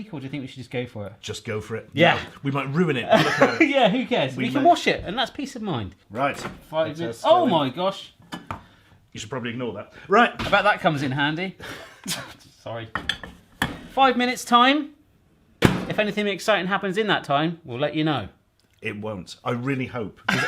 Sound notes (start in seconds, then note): 3.1 laughing; 11.6 laughing; 15.6 microwave door slamming